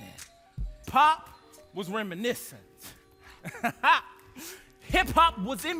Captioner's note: laughs